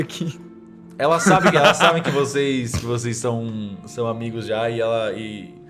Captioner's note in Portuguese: risadas